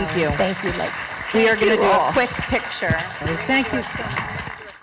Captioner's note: applause